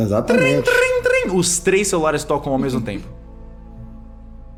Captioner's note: calling sounds